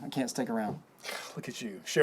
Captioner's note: scoffs